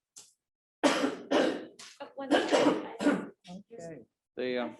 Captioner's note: member coughing; faint chatter